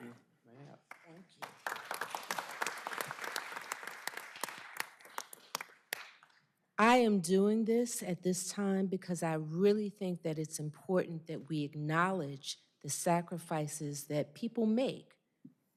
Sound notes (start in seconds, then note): 4.8 applause